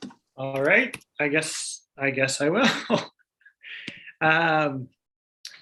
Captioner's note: chuckles